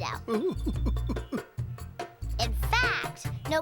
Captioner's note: giggling